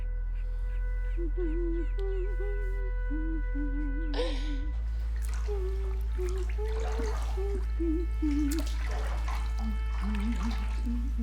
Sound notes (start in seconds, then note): 4.5 continues humming melody